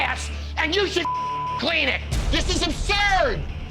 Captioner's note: beep